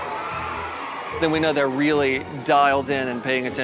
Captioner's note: kids yelling